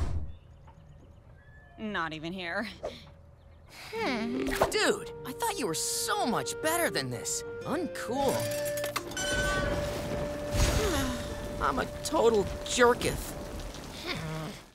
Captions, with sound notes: I'm not even here. [groaning] Dude, I thought you were so much better than this. Uncool. [sighing] I'm a total jerketh. [groaning]